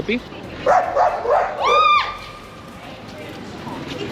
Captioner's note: dog barking